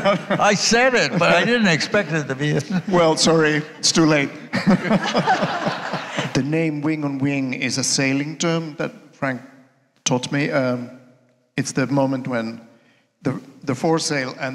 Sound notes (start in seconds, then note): 4.5 all laughing